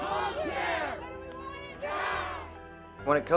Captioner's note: protestors chant